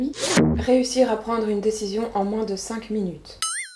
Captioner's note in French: ding